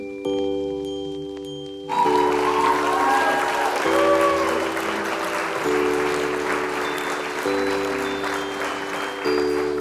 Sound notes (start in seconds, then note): 1.9 audience applauding